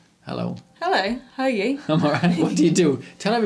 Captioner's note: laughs